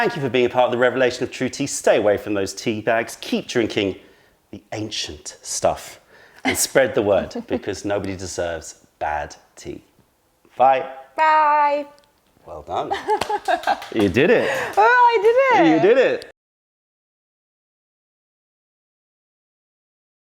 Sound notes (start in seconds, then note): 12.9 laughter